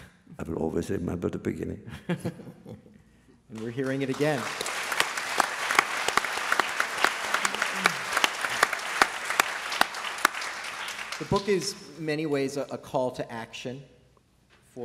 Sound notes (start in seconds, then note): 5.2 applause